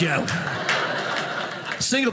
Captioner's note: audience laughing